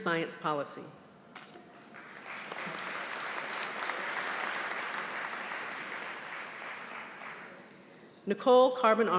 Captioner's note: applause